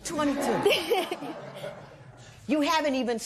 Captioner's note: laughter